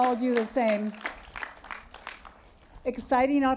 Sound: applause

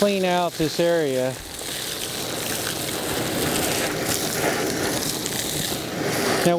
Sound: sound of sucking gravel through hose

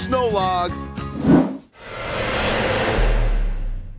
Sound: whips

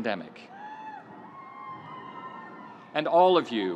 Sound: audience cheering

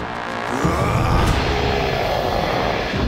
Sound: grunting

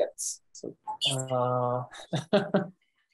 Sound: faintly speaking; laughing

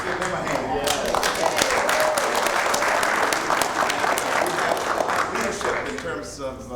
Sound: applause

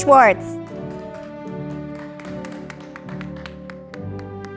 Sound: audience applauding

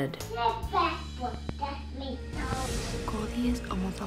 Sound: child babbling

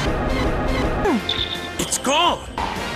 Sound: audio indicator of Gardevoir disappearing

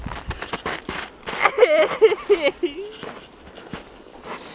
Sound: crying; more crying

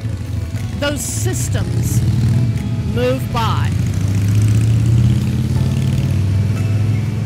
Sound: engine revving

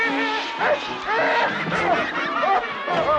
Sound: yells then grunts; all laughing

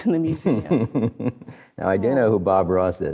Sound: laughs

